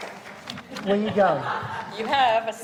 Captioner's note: audience applauding